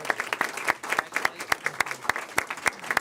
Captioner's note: applause